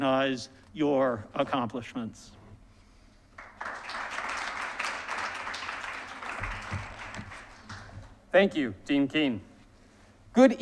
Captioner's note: applause